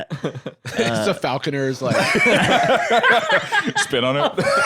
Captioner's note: laughs